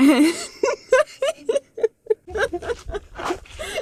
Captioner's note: laughing